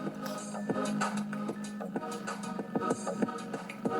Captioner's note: timer beeping